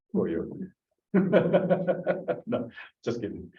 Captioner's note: laughs